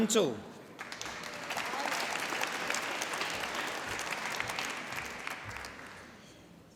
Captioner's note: applause